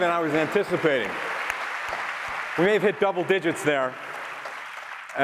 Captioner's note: applause